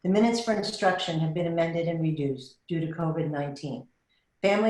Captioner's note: none